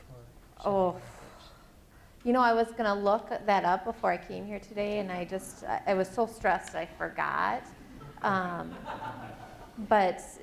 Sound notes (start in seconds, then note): 8.0 laughter